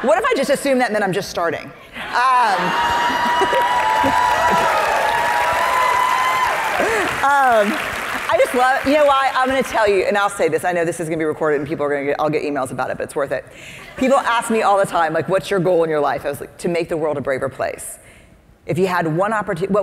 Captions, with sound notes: What if I just assumed that meant I'm just starting? (audience cheering) I just love, you know why, I'm going to tell you and I'll say this, I know this is going to be recorded and I'll get emails about it, but it's worth it. People ask me all the time, like what's your goal in your life? I was like to make the world a braver place. If you had one opportunity,